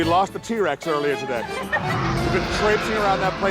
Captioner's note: group laughing